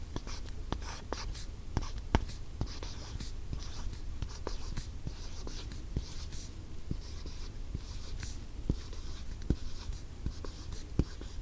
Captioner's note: writing sound